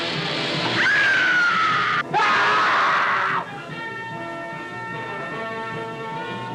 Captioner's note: screaming